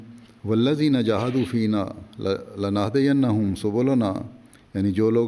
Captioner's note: Arabic